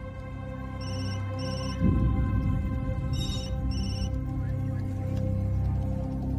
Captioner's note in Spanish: Timbre del celular